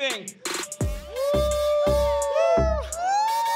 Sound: cheering

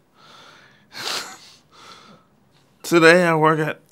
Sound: chuckles

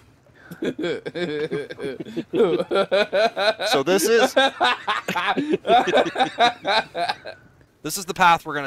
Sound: hysterical laughter

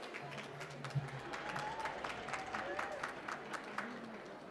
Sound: applause

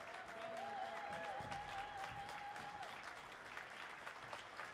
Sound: audience whooping; audience applauding

